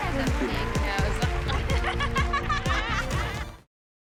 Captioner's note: laughing